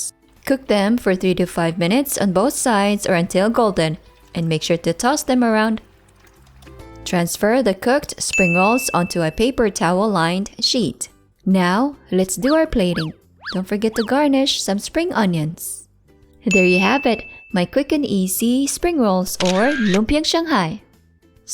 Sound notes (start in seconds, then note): 8.3 timer dings; 16.5 timer dings; 19.4 camera clicks